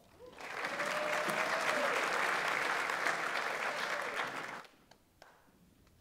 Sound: audience applauds; audience member cheers

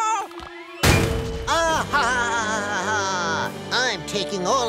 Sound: laughing

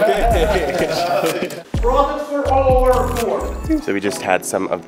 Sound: men laughing

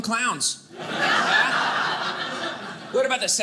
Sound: audience laughing

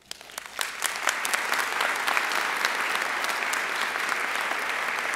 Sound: audience applauding

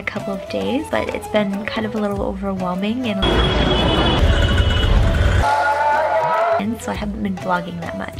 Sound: loud beeping and honking

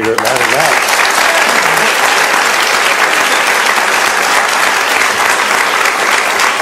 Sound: audience claps

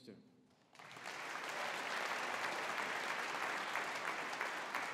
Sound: audience applauding

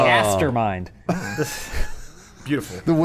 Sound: laughter

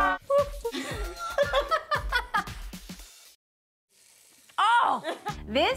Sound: contestants laughing

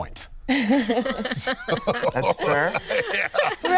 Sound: laughs

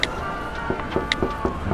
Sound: chanting; door knock

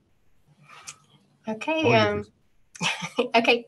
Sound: laughter

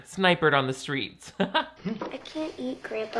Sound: laughs

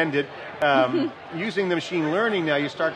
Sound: laughing

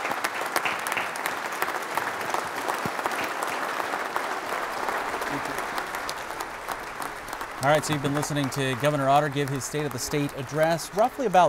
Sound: applause

